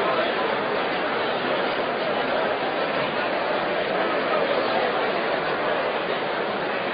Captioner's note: general conversation